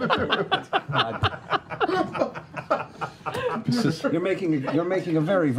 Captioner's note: laughter